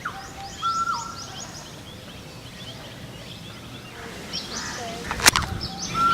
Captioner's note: sound of tropical birds